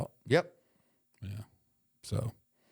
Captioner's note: none